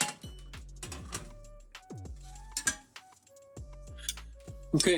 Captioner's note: sizzling